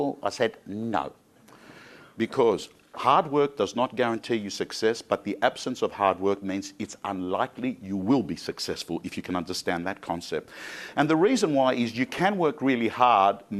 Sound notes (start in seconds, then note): none